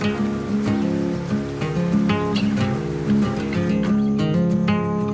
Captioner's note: birds chirping